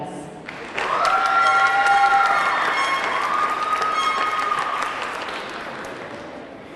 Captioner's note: audience clapping; audience cheering